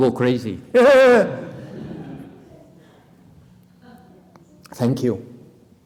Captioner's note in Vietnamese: laughter